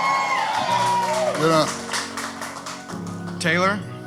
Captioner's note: people cheering